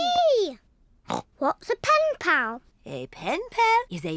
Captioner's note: snorts